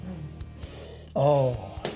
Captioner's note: sniffs